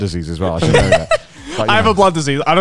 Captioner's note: laughs